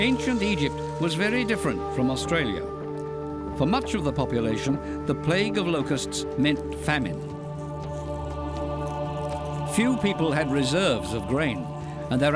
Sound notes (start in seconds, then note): 8.1 men chanting